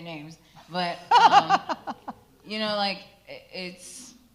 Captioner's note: laughs out loud